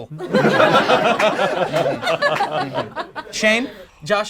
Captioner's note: group laughs